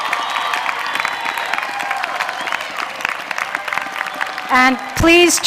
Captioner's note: applause